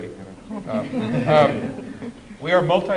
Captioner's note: laughter